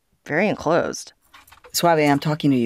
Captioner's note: soundbite of archived recording